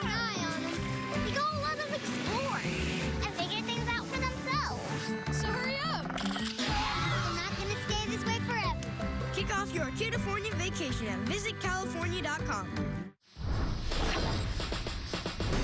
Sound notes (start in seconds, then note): 6.6 screams